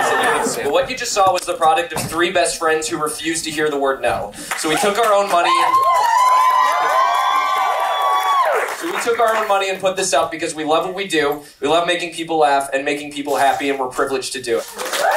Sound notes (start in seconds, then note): 0.0 crowd laughing; 7.1 crowd cheering; 14.7 crowd cheering